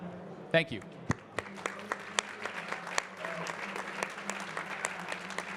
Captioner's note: audience clapping